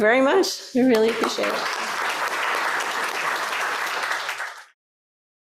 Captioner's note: applause